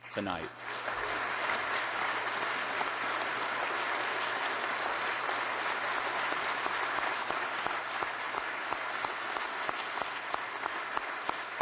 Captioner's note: applause